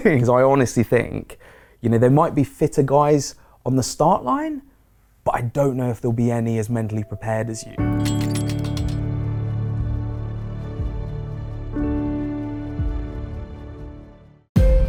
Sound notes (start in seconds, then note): 7.7 gear clinking